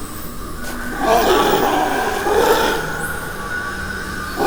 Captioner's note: guttural growling